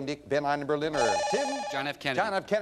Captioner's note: bell rings